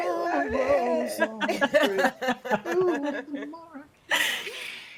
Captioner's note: people laughing